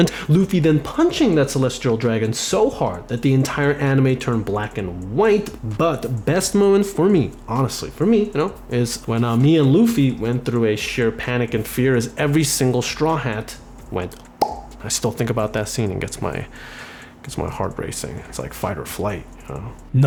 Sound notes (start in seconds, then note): 14.4 pop